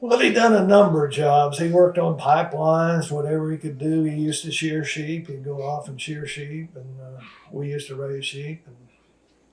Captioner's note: laughs